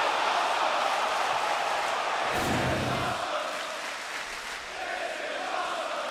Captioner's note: crowd cheering